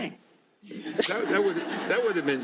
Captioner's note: laughter